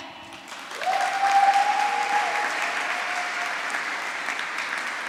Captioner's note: applause